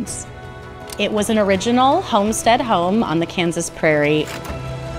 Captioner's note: projector shuffles